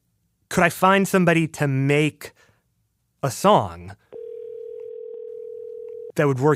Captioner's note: phone ringing